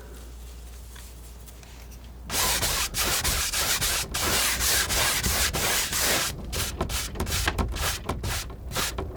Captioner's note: tapping